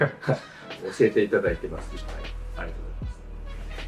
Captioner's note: laughs